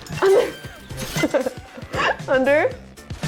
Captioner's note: laughing